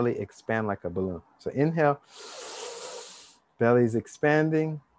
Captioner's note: inhale deeply